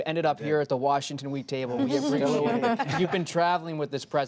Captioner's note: laughter